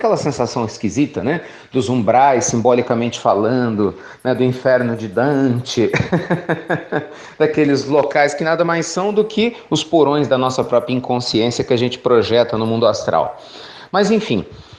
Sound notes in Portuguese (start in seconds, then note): 5.8 risos